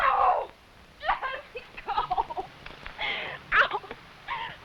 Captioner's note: cries